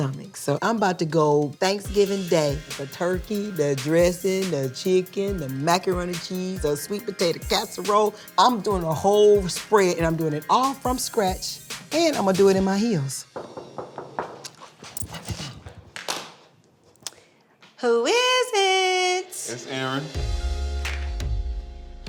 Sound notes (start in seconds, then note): 13.3 knock on door